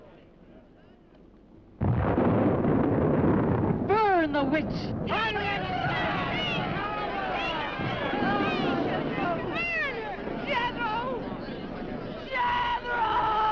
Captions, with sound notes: (thunder rumbling) - Burn the witch! (crowd yelling) - Burn her. - Burn her. - Jethrow. Jethrow!